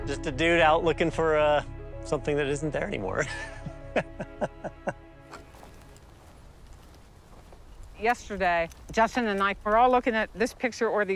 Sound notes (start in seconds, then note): 3.2 laughs